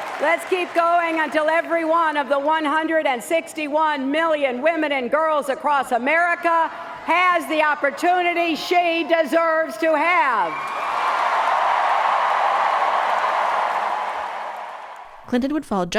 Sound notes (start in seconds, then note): 10.1 cheering